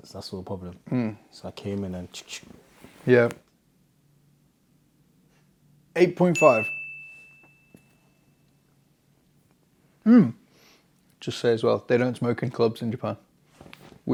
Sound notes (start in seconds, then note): 6.3 bell dings